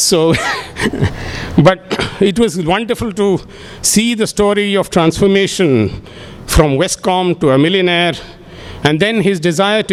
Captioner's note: laughs